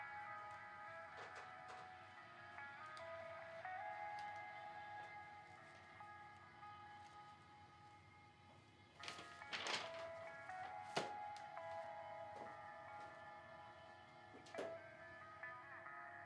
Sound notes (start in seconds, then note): 1.3 soft footsteps on carpet; 8.9 papers rustling; 9.7 upbeat music